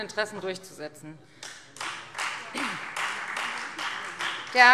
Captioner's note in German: Beifall Freie Demokraten